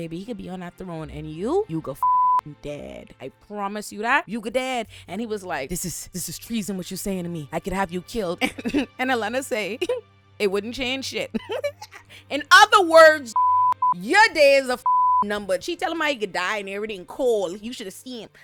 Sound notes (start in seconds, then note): 2.0 beep; 11.3 laughing